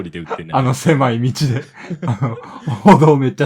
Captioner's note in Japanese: 笑い